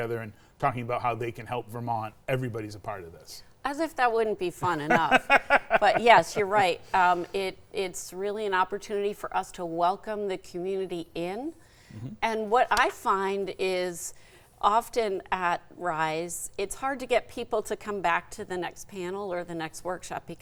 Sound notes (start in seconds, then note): 4.6 laughing